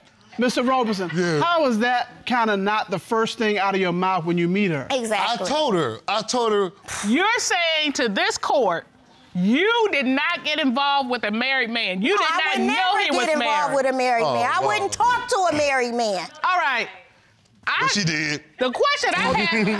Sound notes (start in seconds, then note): 6.7 scoffs; 14.4 scoffs